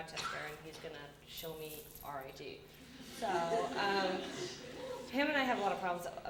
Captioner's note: audience laughter